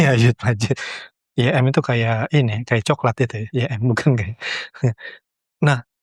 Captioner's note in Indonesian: tertawa